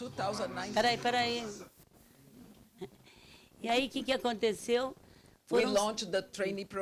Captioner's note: speaking Portuguese